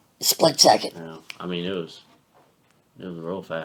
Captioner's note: snapping fingers